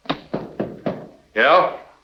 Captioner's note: knocking